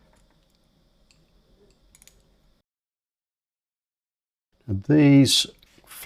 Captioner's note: silence